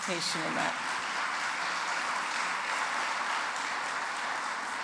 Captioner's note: audience applauds